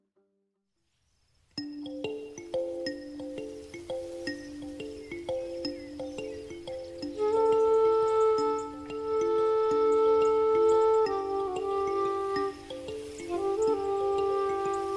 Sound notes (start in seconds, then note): 0.3 soft music; 3.2 birds chirping